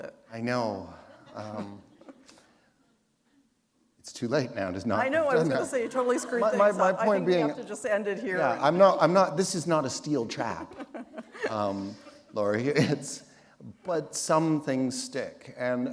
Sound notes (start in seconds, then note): 1.2 chuckle; 10.3 laughter